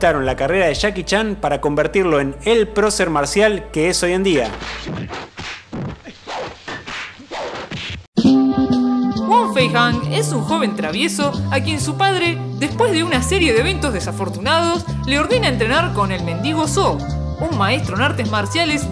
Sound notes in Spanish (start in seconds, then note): 4.4 sonido de golpes y movimientos rápidos; 8.2 música divertida